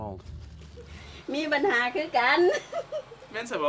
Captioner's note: woman speaks local language